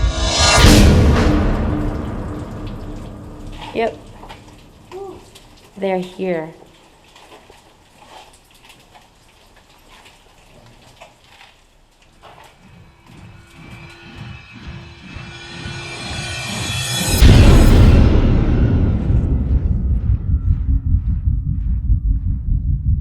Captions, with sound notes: (dramatic, tense music) - Yep. "They're here." (water trickling) (tense, dramatic music)